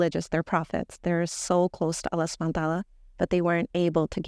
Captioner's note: speaking Arabic